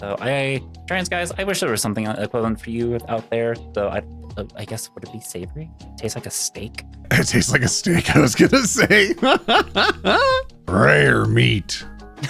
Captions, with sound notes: So trans guys, I wish there was something equivalent for you out there, so I guess would it be savory? Tastes like a steak. It tastes like a steak, I was gonna say. (laughing) Rare meat.